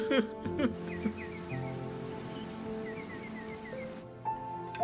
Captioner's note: birds chirping